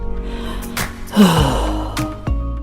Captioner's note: sigh